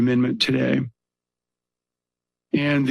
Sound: pause

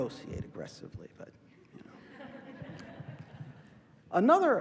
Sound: laughter

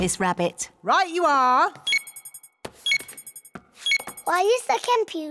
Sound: beeping

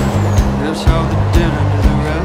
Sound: semi-truck roaring

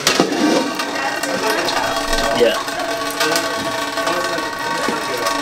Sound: water rapidly hitting metal pots

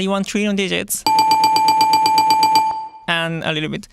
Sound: bell chiming

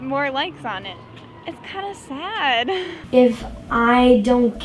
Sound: chuckles

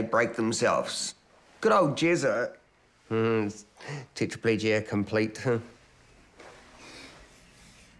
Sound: chuckles

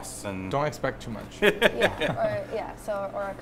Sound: laughing

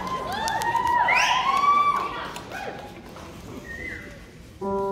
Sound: audience cheer and whoop

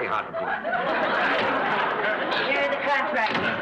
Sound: audience laughs

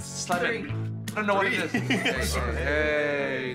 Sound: chuckles

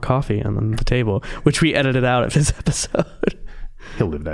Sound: laughing

